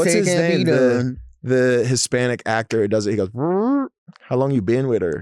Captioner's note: mouth farts